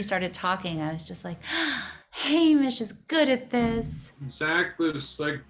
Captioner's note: gasp